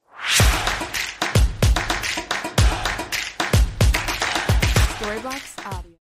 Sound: clap

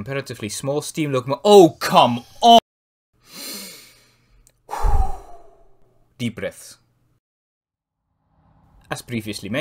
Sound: whew

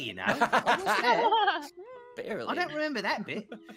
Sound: laughing

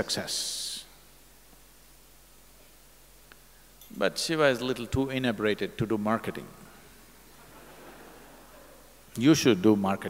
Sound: laughter

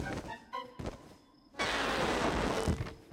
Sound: air hissing

